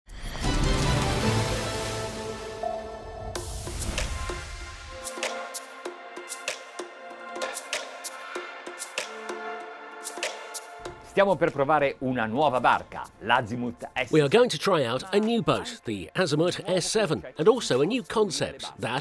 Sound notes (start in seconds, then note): 0.2 cinematic music; 3.8 electronic music; 11.3 speaking foreign language